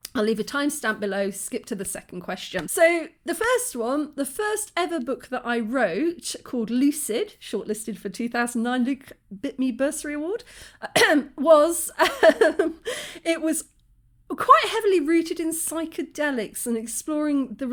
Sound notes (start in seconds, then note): 10.9 cough; 13.0 laugh